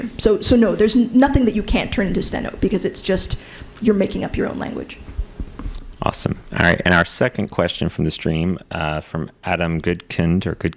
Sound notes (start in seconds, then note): none